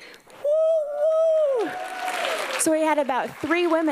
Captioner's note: applause